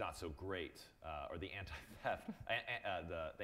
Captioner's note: chuckling